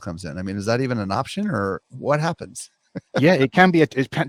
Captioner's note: laughs